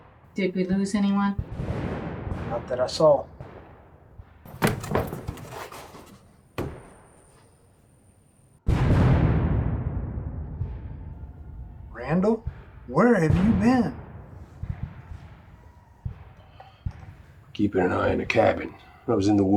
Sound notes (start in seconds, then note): 3.6 gun banging